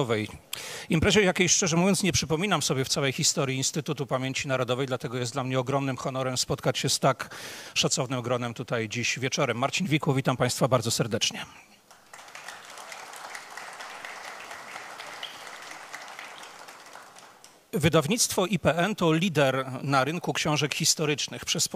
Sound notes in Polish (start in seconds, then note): 11.8 oklaski